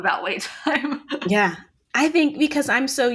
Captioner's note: laughing